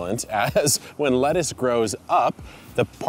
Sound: laughing

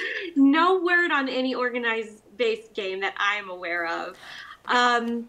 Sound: laughing

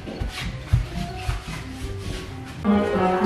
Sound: feet shuffling

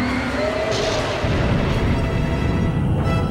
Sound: thunder rumbling

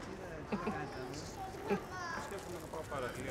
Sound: chuckles

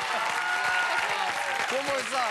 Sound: applause

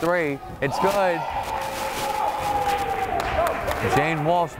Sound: crowd cheering

